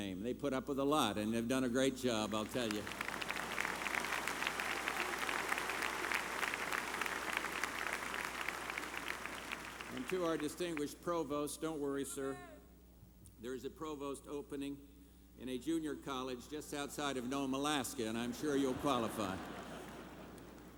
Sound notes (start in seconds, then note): 4.9 applause